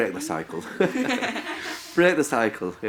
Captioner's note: all laughing